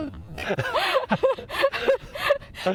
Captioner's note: laughter